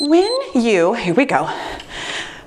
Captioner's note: timer beeps